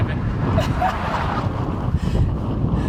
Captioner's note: loud laughing; wind whooshing